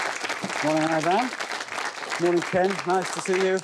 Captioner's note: audience applauds